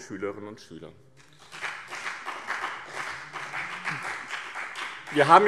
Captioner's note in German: Beifall BÜNDNIS 90/DIE GRÜNEN und CDU